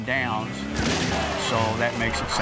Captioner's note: car crunches